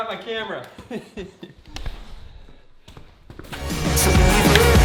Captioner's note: chuckling; upbeat music